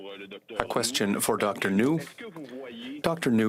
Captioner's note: speaking French